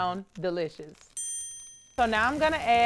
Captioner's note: dinging